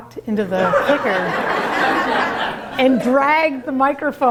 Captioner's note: laughter